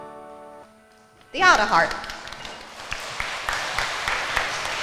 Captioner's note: crowd clapping